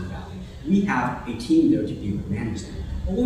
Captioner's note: murmurs